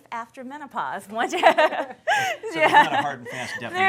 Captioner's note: laughter